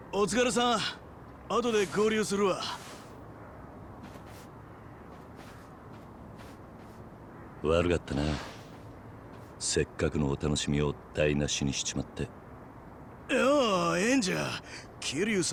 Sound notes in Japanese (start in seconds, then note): none